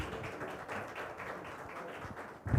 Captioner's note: audience clapping loudly